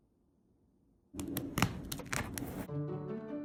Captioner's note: fabric ripping; light classical music